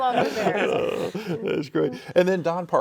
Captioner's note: laughing